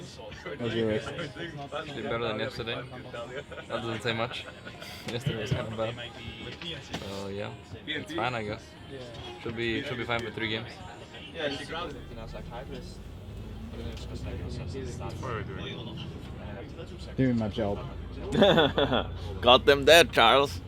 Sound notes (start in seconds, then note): 18.2 laughs